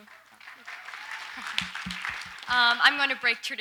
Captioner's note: audience applauds lightly